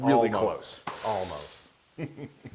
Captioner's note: laugh